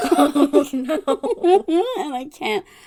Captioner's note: laughs